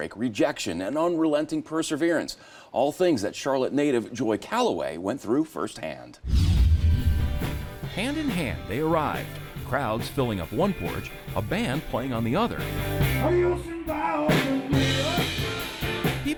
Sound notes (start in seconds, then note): 6.2 screen whooshing; 13.0 upbeat music